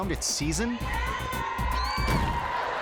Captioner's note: cheerleaders chanting; dancer thudding; audience laughing